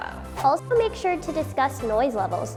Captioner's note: swooshing